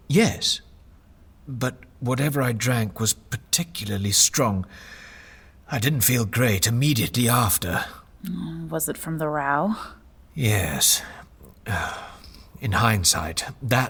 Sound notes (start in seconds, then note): 7.9 condescending